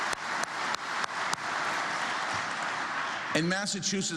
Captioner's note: applause